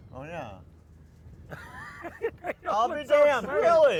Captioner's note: laughs